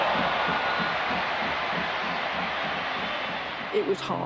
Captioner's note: crowd cheers